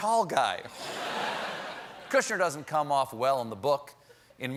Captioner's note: laughter